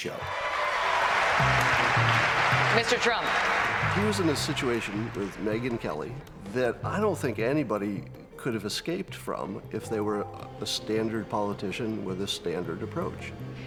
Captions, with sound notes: to really learn about the candidate. It's a show, it's a TV show. (crowd cheering) (upbeat music continues) - Mr. Trump. - He was in a situation with Megyn Kelly that I don't think anybody could have escaped from